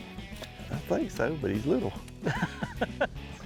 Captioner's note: upbeat rock music; laughing